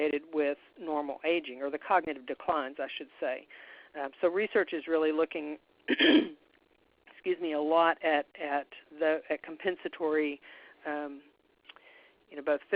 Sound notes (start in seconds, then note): 5.9 clears throat